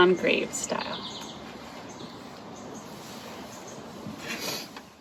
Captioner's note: birds chirping